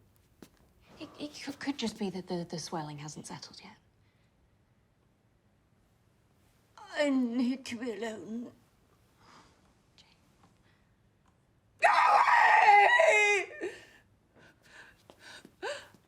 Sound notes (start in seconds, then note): 11.8 screaming; 13.6 sobbing